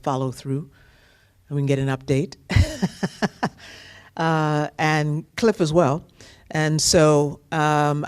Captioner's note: laughter